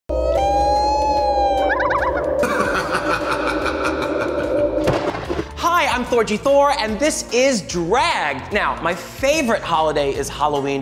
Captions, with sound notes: [ANIMALS CHIRPING] [OMINOUS LAUGHTER] - Hi. I'm Thorgy Thor, and this is drag. Now, my favorite holiday is Halloween